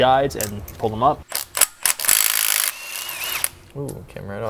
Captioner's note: drill whirring